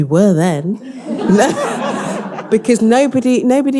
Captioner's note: all laughing